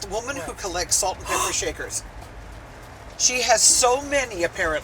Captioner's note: gasp